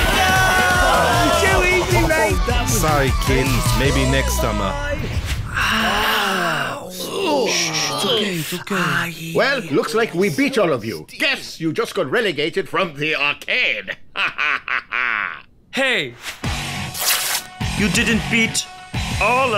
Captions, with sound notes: -Noooo! -It was too easy, mate! -Sorry, kid. Maybe next summer. [groans of pain] -Shh shh, it's ok. It's ok. -Well, looks like we beat all of you. Guess you just got relegated from the arcade. Hahahaha. -Hey! You didn’t beat all of us.